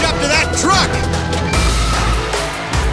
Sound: beeping

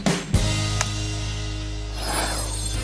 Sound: upbeat music; clapping; bright music

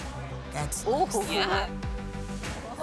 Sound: chuckles

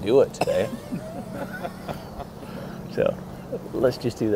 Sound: laughs

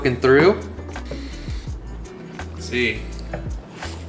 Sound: inhales

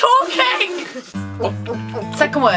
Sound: laughs; glugs

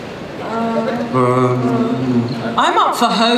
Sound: groaning, mumbling

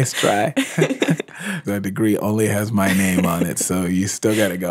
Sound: laughs

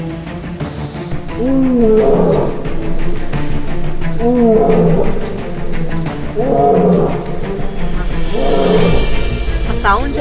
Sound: lion Roaring

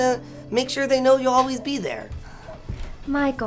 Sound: none

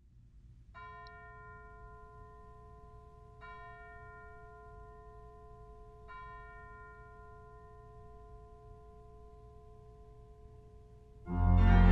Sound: carillon tolling

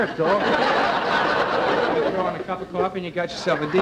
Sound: audience laughter

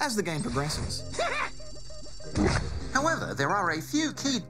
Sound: laughs

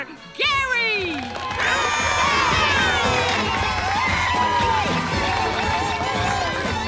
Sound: cheering

